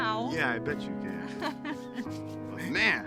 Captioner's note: Bree laughs